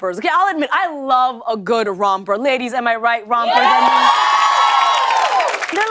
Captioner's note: cheers and applause